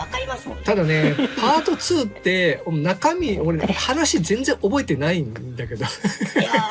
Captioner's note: laughs